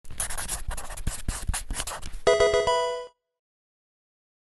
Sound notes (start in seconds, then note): 0.1 marker writing; 2.2 Pokemon game sound